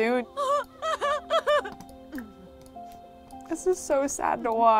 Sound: Kasey sobs

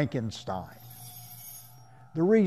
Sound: knife sharpening

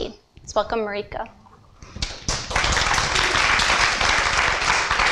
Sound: applause

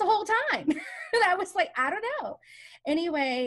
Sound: laughs

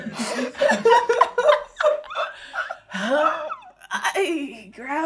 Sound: laughing

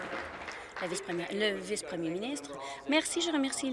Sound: applause

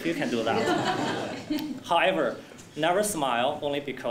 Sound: laugh

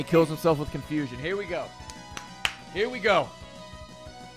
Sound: claps

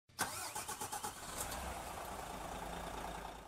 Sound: engine starting

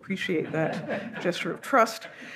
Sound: audience laughs

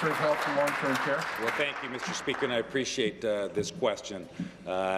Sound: applause

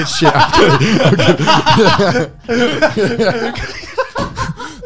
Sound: everyone laughs

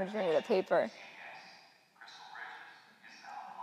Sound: PA System

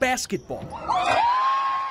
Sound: sounds of softball game

